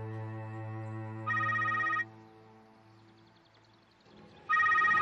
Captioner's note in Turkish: Telefon çalıyor